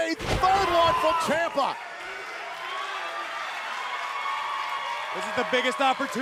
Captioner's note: crowd cheering